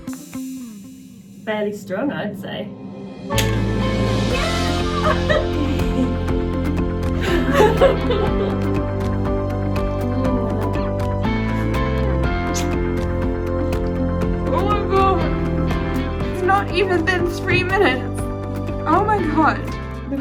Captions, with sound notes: Fairly strong, I'd say. (bright upbeat music) Yeah. (laughing and crying) - Oh my God. It's not even been three minutes. Oh my God.